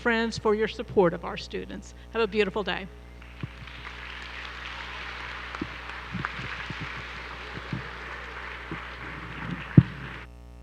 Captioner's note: applause